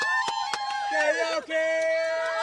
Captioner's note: cheering